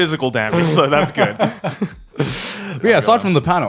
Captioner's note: laughing